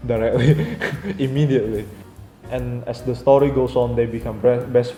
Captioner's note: hahahahaha